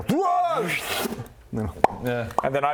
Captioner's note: pop!